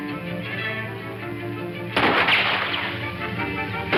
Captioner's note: guns firing